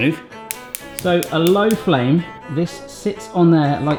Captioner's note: stove top clicking